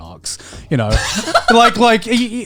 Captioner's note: laughs